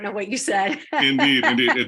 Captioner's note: laugh